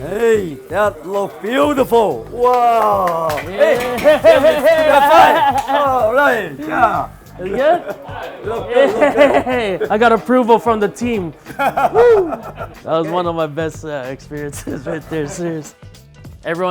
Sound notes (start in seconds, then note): 2.4 clapping; 8.3 laughing; 11.4 laughing